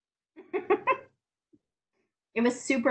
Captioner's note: laughs